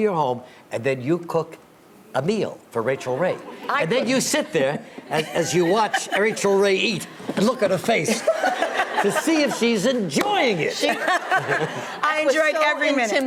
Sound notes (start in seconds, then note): 7.9 audience laughs; 10.8 Rachael laughs